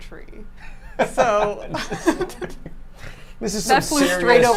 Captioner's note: group laughs